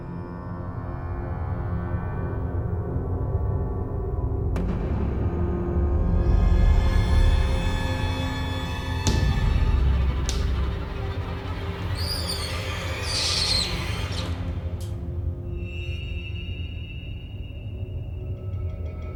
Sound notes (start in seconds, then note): 8.4 fingernails tapping; 11.1 glass squeaking